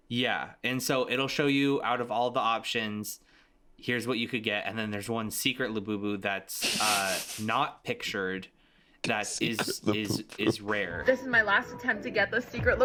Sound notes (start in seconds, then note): 9.1 laughing